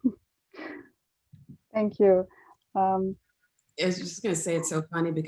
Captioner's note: laugh